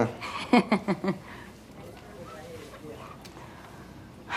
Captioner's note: Marie laughs